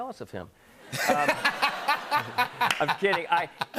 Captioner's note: laughter